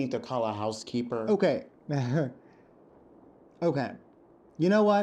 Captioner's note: laughs